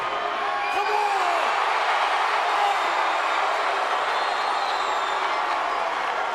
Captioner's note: crowd cheering